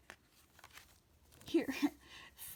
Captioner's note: laughs